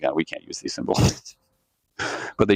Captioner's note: laughs to himself